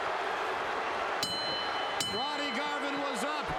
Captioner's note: bell ringing